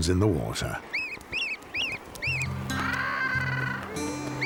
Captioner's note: birds chirping